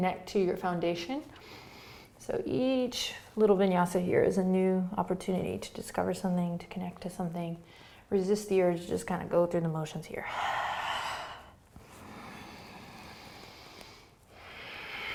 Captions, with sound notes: to your foundation. So each little vinyasa here is a new opportunity to discover something, to connect to something. Resist the urge to just kind of go through the motions here. (exhaling and inhaling)